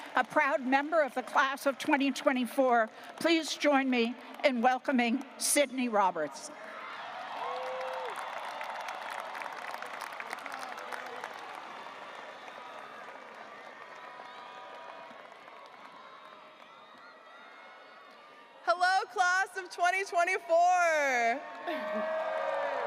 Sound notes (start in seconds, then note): 7.2 audience cheering and applauding